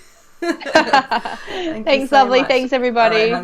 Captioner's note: laughing